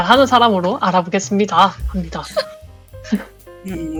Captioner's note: laugh